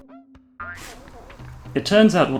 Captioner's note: bonk